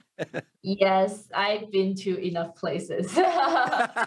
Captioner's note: laughs; laughs